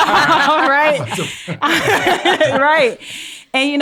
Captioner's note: all laugh